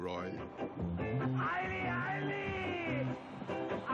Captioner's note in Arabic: صراخ